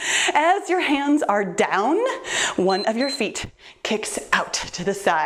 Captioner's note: timer beeps